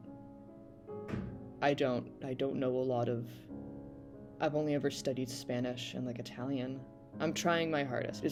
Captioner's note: bang